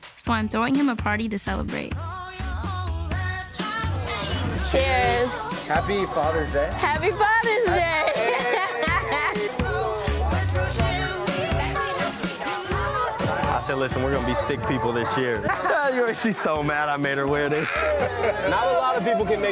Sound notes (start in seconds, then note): 7.5 laughs; 10.3 group chattering; 17.2 group laughing; 17.2 laughs